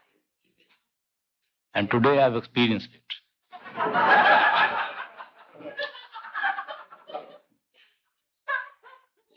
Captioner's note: laughter